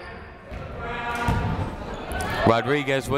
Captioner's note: people shouting in the crowd